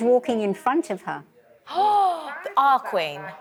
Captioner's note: gasps